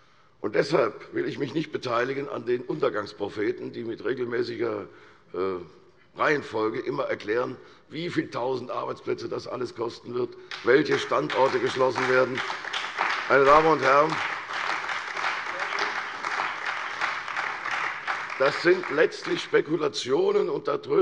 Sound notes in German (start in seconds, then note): 12.4 Beifall bei der CDU, der SPD und dem BÜNDNIS 90/DIE GRÜNEN